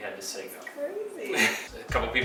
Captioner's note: laughs